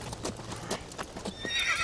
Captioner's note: horse whinnies